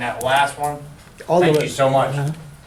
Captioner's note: voiceover